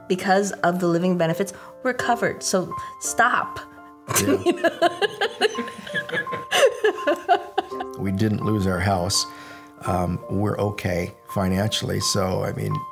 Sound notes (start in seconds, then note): 4.1 laughing